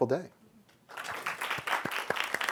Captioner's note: audience applauding